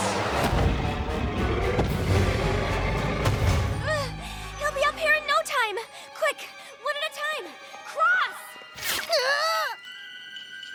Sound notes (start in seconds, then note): 0.1 growling; 3.7 gasps